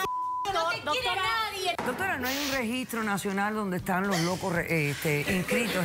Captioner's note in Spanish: Bip